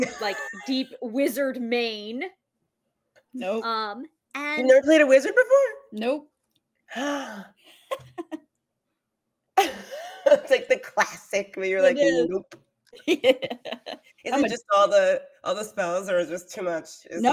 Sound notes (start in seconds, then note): 0.0 laughs; 6.9 gasps; 7.9 laughs; 9.9 laughs; 13.0 laughs